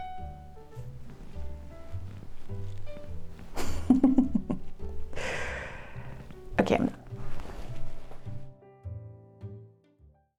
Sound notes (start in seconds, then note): 3.5 laughs